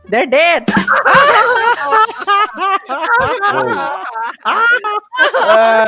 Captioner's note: grandpa's hideous laughter